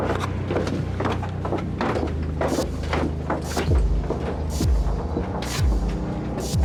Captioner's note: suspenseful music continues; footsteps thudding